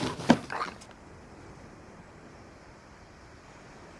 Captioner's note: sound of waves